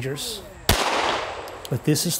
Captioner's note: gun firing